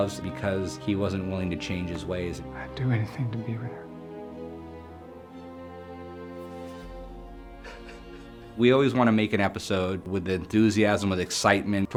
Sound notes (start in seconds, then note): 3.9 dramatic music; 6.7 sobs